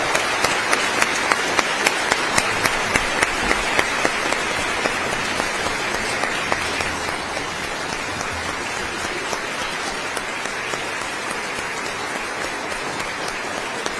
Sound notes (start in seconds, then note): 3.3 applause